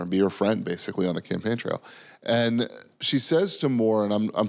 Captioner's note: none